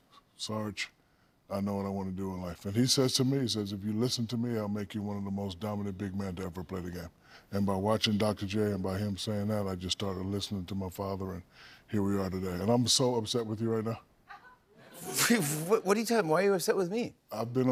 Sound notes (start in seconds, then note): 14.3 laughter